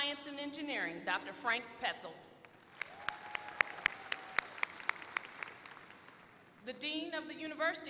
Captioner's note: applause